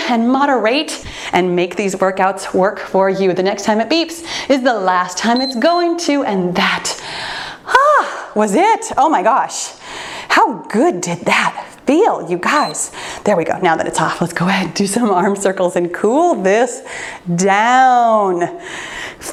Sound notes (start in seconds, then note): 5.3 timer beeps; 12.6 timer turns off